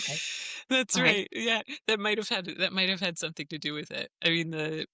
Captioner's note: laughs